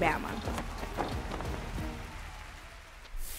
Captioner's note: cheering